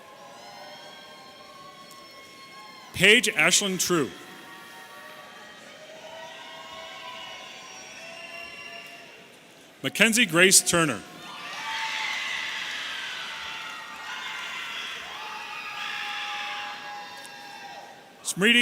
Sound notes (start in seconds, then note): 11.2 audience cheering